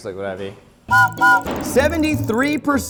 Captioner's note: whistle blows